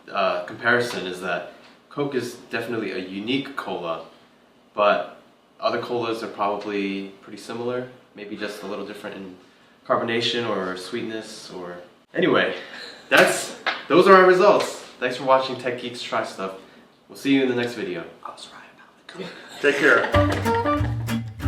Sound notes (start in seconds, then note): 18.5 whispering; 20.1 outro music plays